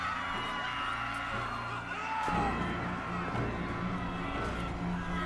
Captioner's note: crowd cheering